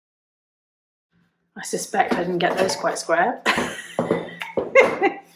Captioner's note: laughs